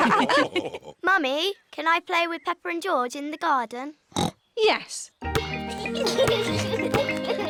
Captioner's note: others laugh; oinks; youngsters giggle